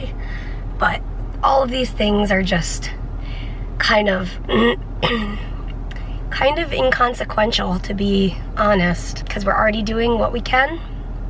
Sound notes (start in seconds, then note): 4.5 clears throat